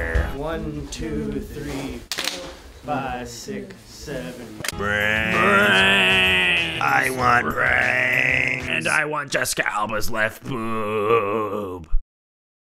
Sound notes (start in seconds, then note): 1.9 clap; 4.4 clap